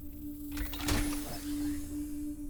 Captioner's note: door unlocks